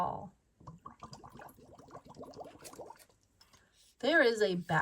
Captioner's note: water bubbles